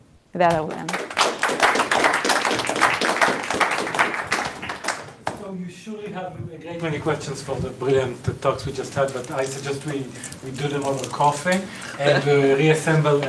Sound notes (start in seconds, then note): 5.2 audience applauding